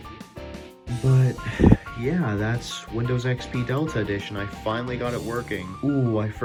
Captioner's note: exhale